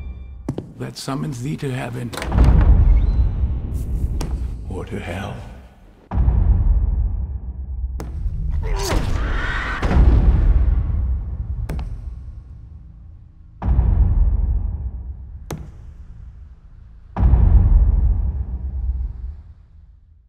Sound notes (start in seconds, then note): 0.4 footstep; 1.9 door opening; 6.1 echoing knock; 7.9 knock; 8.6 choking sound; 9.7 echoing knock; 11.7 knock; 13.6 echoing knock; 15.5 knock